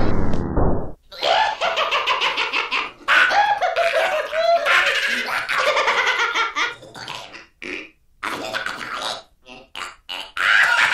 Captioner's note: Manic Gremlins laughter